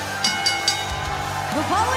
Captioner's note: crowd cheering; bell ringing